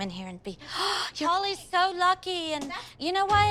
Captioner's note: gasps